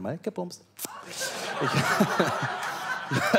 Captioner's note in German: Lachen